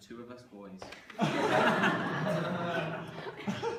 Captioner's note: laughter